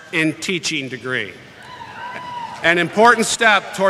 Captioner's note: cheering